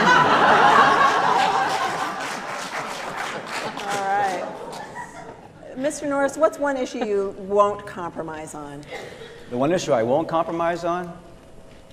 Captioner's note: laughter